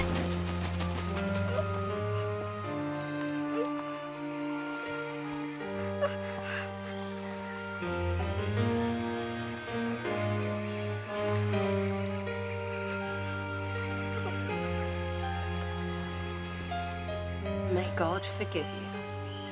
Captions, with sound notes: (Rose crying) - May God forgive you.